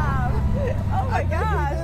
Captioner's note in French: laughter